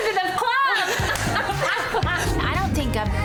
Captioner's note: laughing